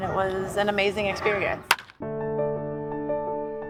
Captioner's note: bat cracks; introspective piano music